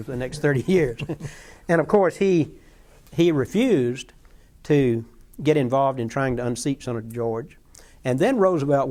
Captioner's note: laughter